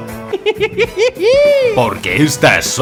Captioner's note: maniacal laughter